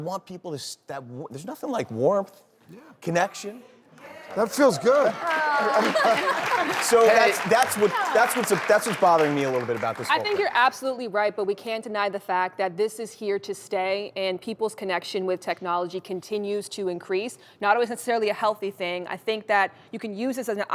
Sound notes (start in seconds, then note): 4.6 everyone laughs; 6.8 audience claps